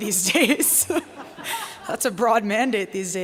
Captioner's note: laughing